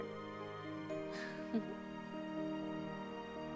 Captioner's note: laughs